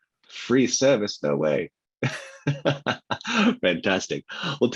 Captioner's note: laughs